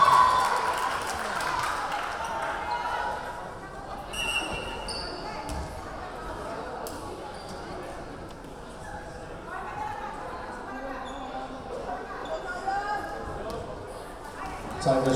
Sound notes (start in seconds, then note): 0.0 clapping; 0.0 cheering; 3.4 clapping; 4.2 whistle blowing; 10.5 yelling